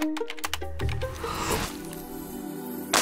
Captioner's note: keys clacking; slurping; bright music